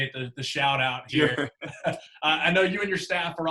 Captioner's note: laughing